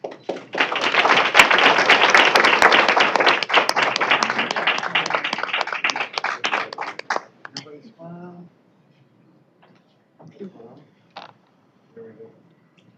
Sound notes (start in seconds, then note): 0.0 applause; 7.8 indistinct chatter